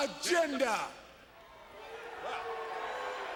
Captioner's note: crowd cheering